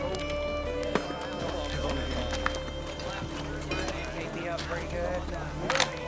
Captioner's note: chatter